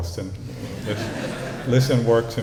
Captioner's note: laughter